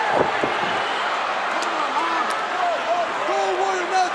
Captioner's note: crowd cheers; shouts